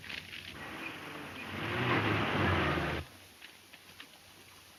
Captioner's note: vehicle engine roaring